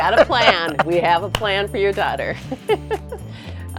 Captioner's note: chuckles